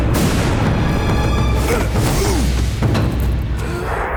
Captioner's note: grunting